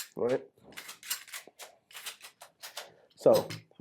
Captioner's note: metal parts clicking